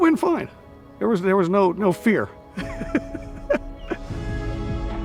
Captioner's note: laughing